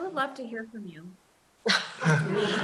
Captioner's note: laughter